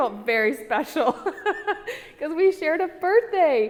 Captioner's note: laughs